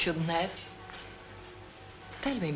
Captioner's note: church Bells